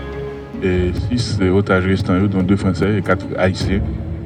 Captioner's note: French spoken audio